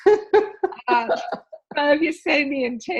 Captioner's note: laughing